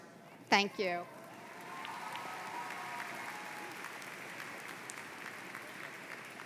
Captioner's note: applause